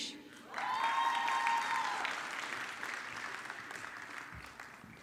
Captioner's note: audience clapping